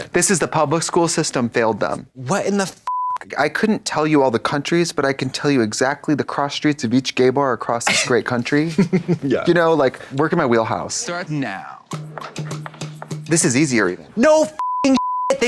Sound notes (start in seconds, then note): 8.6 Katya chuckles; 12.0 tense music